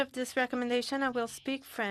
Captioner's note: speaking French